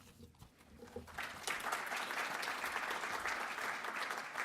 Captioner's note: audience clapping